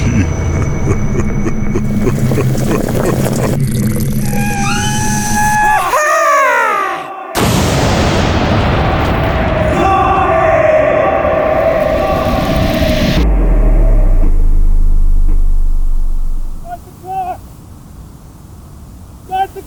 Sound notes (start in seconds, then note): 0.0 metal squeaking; 0.0 laughing; 1.8 coffee burbling; 3.7 coffee dribbling; 4.2 screaming; 7.6 explosion booming